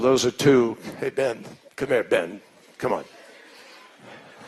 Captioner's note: laughter